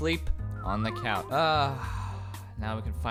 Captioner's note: sigh